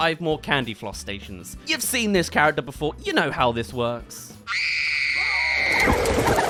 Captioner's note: screams